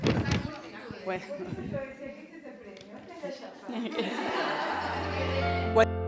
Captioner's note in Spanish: Risas; Música suave